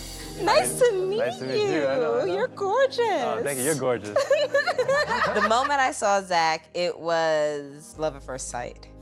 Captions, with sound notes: - Nice to meet you! - Nice to meet you. - You're gorgeous! - Oh, thank you. You're gorgeous. - [laughs] The moment in saw Zack, it was love at first sight.